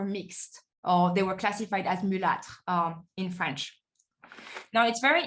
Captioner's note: speaking french